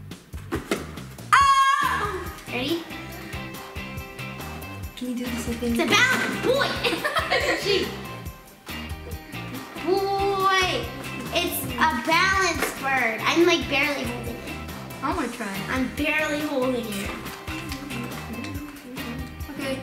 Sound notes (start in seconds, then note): 8.1 laughing